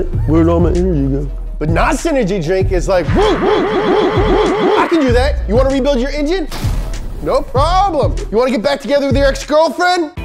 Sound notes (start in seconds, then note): 3.0 whooping